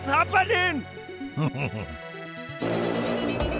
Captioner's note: chuckling